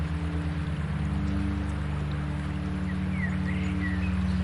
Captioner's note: birds chirping